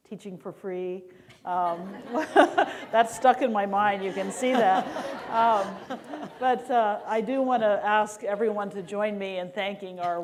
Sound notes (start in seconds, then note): 1.6 laughter